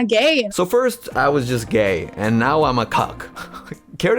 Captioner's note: chuckles